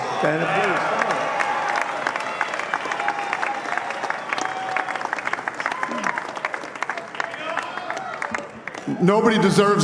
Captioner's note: applause